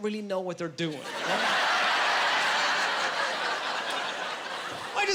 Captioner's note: laughing